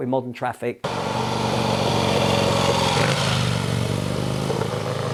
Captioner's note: motorcycle engine noise